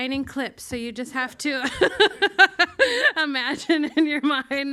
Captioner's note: laughs